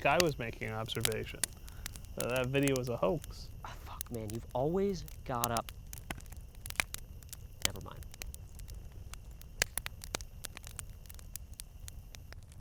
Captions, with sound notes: - Just like I was making an observation. That that video is a hoax. - Fuck, man, you've always got a... never mind. (fire crackling)